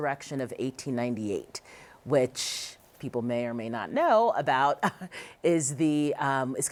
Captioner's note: chuckles